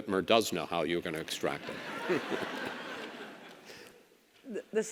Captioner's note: audience laughs